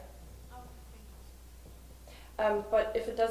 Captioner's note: voiceover